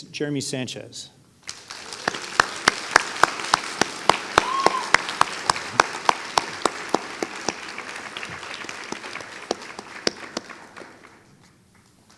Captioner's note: applause